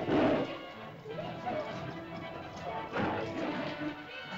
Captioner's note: dinosaur snarls; suspenseful music; terrified chatter; dinosaur snarls; suspenseful music